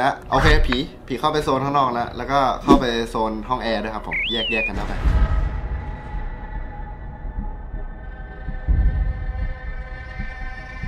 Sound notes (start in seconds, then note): 0.2 radio; 4.0 uneasy melody playing; 4.3 radio